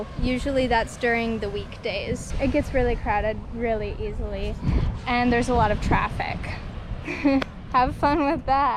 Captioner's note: laughs